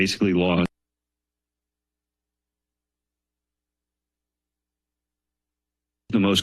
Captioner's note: silence